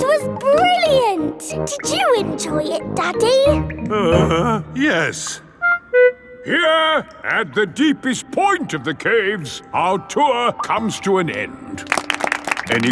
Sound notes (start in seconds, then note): 0.0 laughing; 3.9 groans; 11.8 all clapping